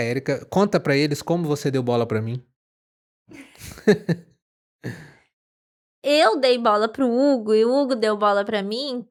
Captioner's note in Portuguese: risadas; suspirando